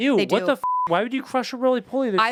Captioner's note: beep